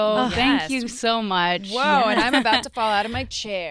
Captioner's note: laugh